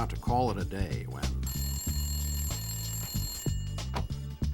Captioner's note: ring